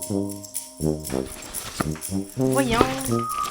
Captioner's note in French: Bruits, quelqu'un fouille